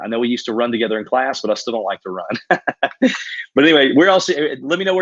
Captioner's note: laughs